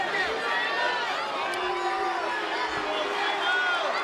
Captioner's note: crowd booing